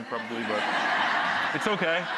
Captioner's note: audience laughing